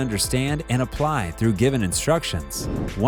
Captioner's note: air whooshing